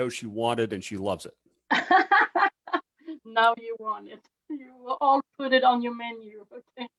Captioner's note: laughs